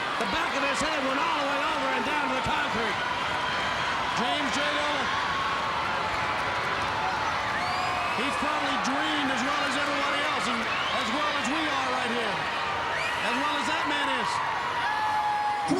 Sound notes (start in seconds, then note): 6.0 crowd cheering; 6.0 crowd whistling